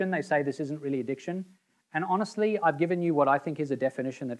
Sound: none

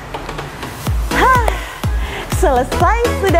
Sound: inhale

